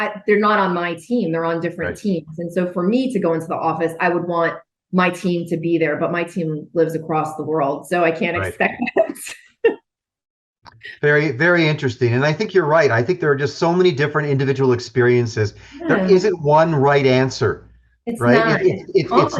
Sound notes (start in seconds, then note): 8.3 laughing